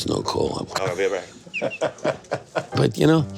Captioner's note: laughing